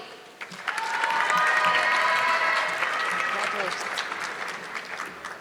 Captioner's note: audience clapping